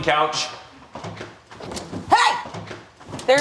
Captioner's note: footsteps running